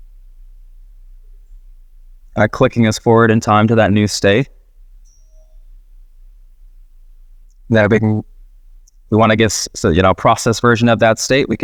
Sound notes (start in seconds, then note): 4.9 sprite dinging